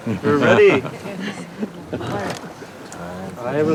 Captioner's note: chuckling